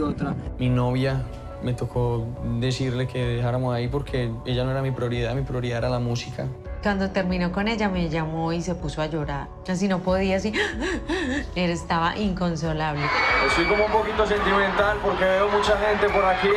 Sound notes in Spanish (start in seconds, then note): 10.6 imita sollozo